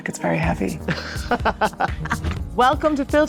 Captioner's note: laughing